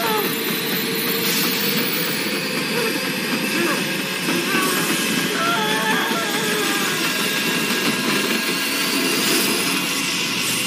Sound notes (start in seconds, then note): 2.6 whimpering; 5.2 screaming